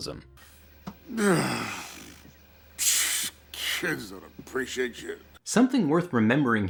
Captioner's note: groans and scoffs